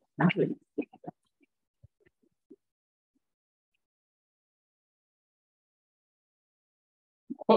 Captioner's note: silence